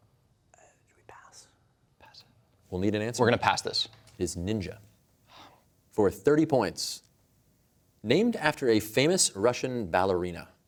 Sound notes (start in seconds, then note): 5.2 exhales